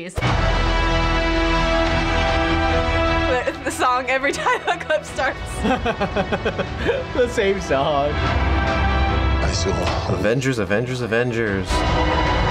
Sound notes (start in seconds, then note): 0.5 dramatic music; 5.6 chuckles